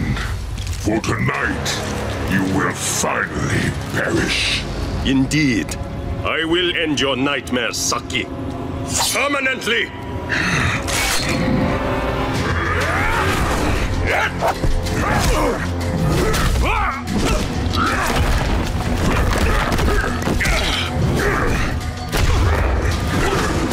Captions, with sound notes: for tonight, you will finally perish. Indeed, I will end your nightmares, Saki. Permanently. [growling] [grunting] [grunting]